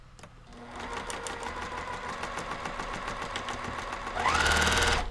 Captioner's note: sewing machine roaring